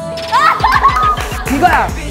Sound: hahahahhahahaaha

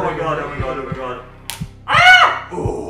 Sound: screams

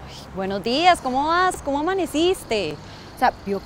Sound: sarcastically

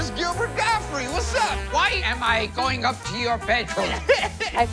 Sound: laughs

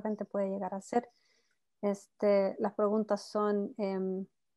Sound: speaking Spanish

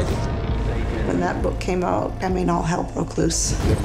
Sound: none

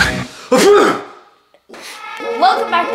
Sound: sneezes

